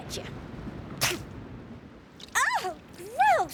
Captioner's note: spits